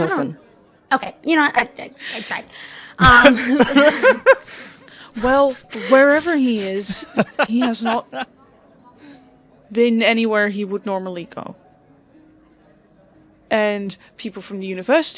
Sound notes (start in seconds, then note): 3.2 laughter